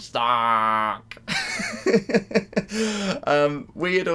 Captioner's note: laughter